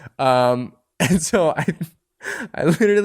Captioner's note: laughter